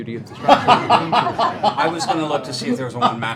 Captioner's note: laughter